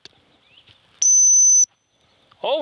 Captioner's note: whistle